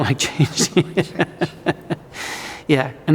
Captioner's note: laughing